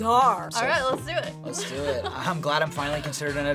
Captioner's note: laughs